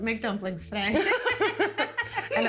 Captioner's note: both laughing